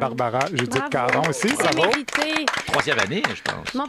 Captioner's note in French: applaudissements